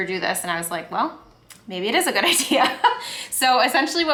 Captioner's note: laughs